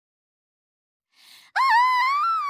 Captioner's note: big InhaleeEEEE